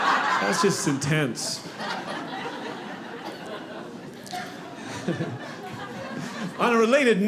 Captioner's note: audience laughing